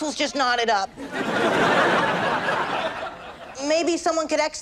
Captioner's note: audience laughs